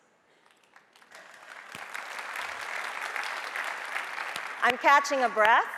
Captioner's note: audience applauding